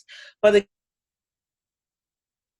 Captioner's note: audio drops out